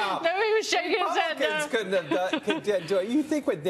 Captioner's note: laughter